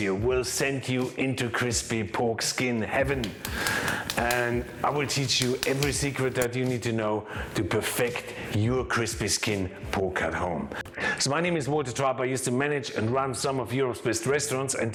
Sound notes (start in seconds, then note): 3.0 crispy pork bites crackling